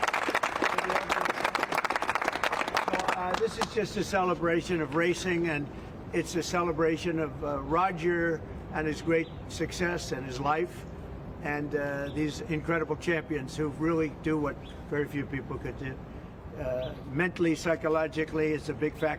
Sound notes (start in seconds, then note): 0.0 applause